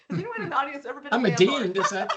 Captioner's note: chuckling